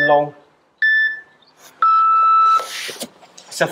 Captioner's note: beep